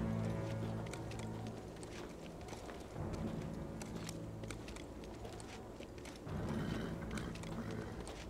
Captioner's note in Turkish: At nalı sesleri